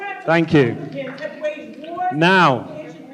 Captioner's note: shouting